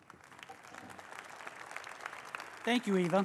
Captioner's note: applause